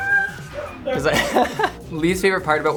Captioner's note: laughs